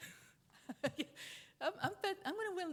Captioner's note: chuckles